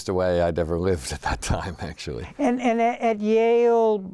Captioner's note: laughs